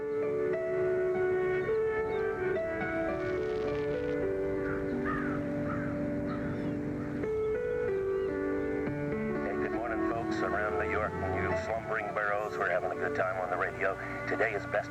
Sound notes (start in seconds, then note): 4.2 birds calling; 8.2 man on radio